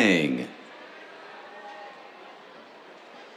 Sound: cheers

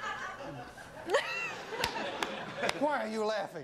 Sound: audience laughing

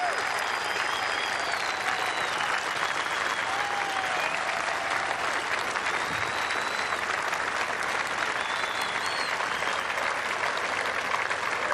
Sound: applause

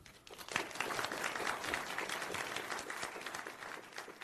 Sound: audience applauds

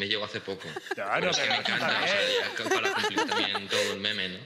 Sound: they laugh

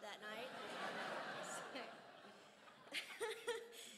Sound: crowd laughs

